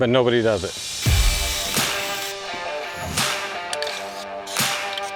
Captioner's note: upbeat music; drilling; upbeat music; whooshing